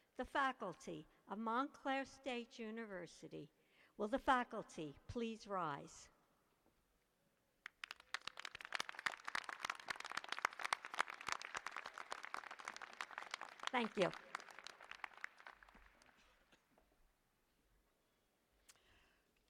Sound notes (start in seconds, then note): 7.6 applause